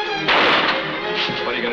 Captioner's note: gun firing